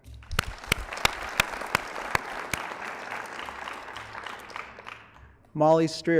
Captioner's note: applause